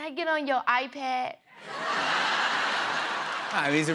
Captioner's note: laughter